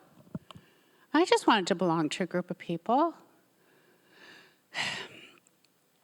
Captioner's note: sighs